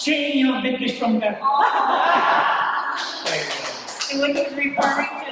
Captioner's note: chatter